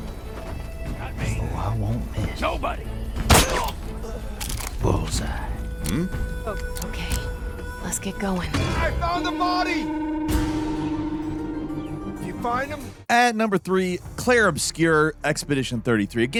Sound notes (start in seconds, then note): 0.1 tense music; 3.3 character groaning